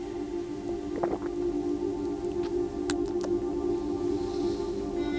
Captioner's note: swallows and tsks